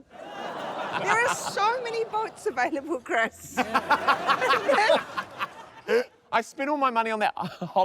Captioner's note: laughter; snickers